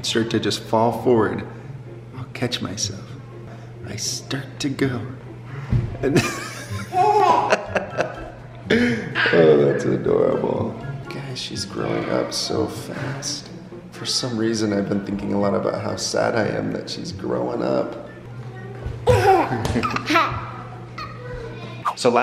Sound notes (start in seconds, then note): 6.1 laughs; 19.1 laughing